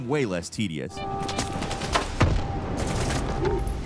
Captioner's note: detector beeping; bullets thwacking; gun firing